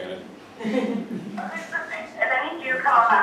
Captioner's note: woman laughs